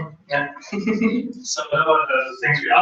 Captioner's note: laugh